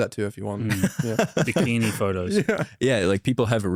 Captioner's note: laughs